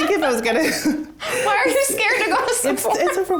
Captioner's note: laughs